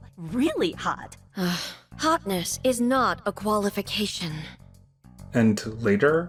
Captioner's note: sigh